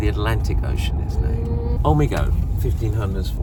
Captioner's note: mm in Korean